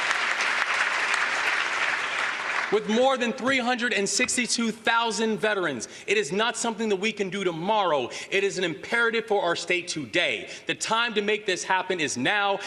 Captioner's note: applause